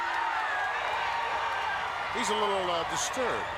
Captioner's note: crowd cheers